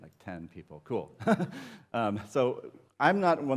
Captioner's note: laughter